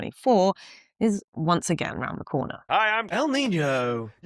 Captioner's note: Troy McClure voice